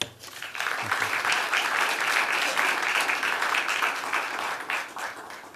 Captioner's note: applause